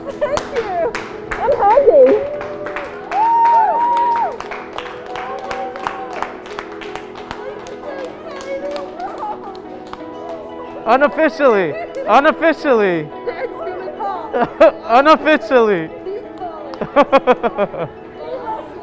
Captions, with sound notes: Oh, my freaking God! Thank you! I'm happy. [cheering] Oh, my God! I'm so excited! Unofficially, unofficially. [laughs] Unofficially. [laughs]